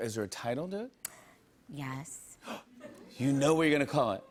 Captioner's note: gasps